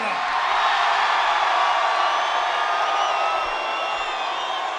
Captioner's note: audience cheering